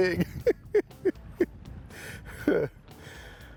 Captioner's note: chuckling